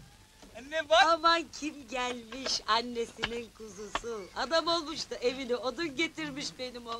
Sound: sounds come from the TV

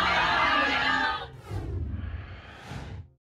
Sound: whoosh

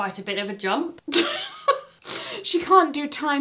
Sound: laughs

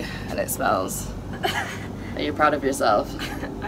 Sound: chuckles

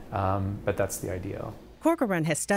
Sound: voiceover

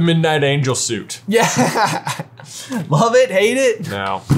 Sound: laughs

